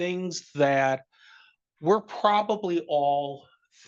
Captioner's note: none